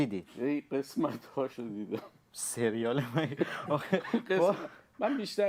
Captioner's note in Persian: خنده